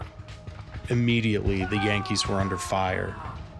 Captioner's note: soldier yelling